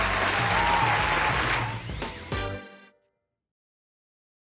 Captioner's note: applause